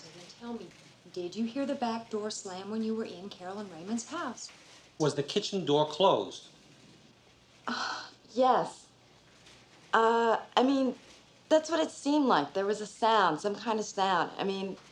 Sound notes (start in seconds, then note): 8.3 groans